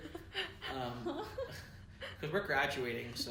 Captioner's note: laughs